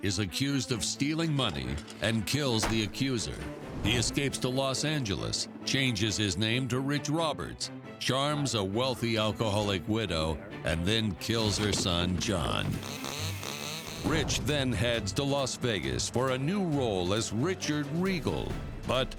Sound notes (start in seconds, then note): 14.3 machine whirring